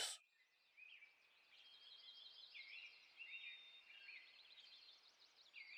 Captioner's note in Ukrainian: звуки природи